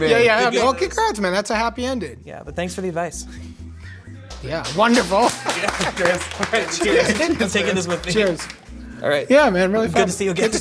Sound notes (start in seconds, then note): 4.3 applause